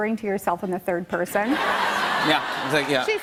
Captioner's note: laughter